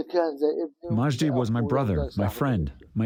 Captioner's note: through translator